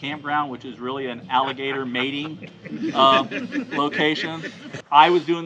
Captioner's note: team members laughing